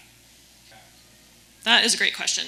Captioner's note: participant speaks faintly